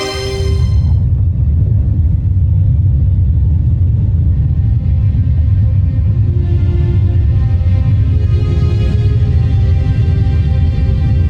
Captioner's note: melodramatic music playing; music fades; molten surge rumbles